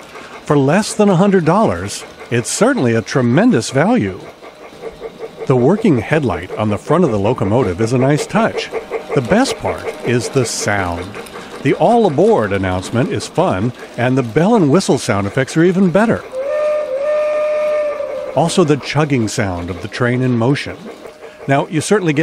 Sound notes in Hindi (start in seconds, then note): 16.2 एक भाप ट्रेन सीटी की आवाज